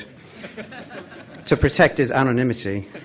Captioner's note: laughing